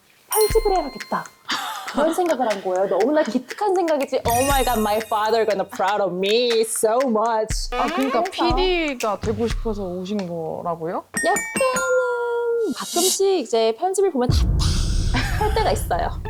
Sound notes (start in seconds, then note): 11.2 correct-answer sound effect; 14.3 thud sound effect